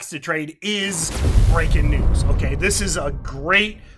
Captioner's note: explosion